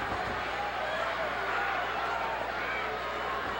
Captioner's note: boos